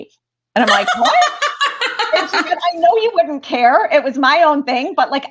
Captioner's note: laughter